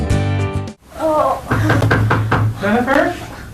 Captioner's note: groaning in pain; knocking on door